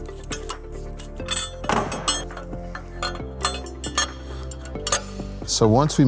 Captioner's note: metal clattering; ambient music